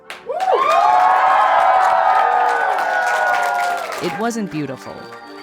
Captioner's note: audience cheering and applauding